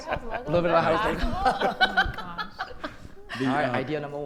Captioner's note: indistinct conversation